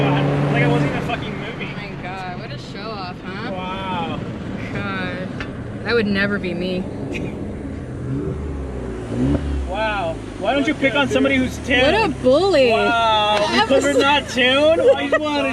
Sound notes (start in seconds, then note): 7.9 laughs